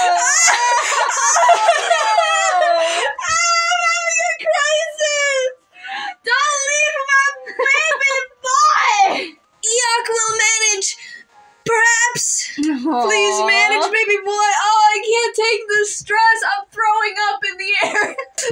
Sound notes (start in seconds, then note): 6.1 inhale; 17.7 quiet Laugh